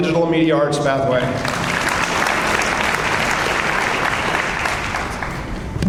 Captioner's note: audience applauds